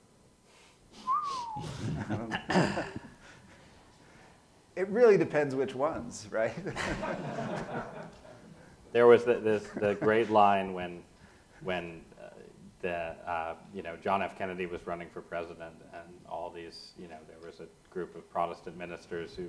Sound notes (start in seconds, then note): 1.0 whistles; 6.6 audience laughs